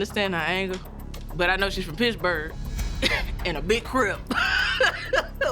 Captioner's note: laughs